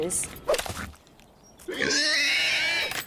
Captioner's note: squeal in terror